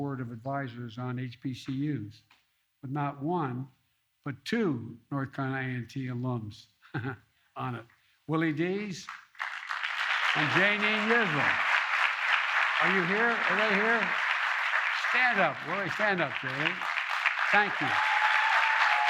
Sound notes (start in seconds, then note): 10.4 applause; 18.8 applause